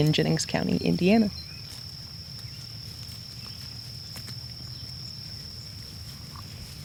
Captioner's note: crickets chirping; birds singing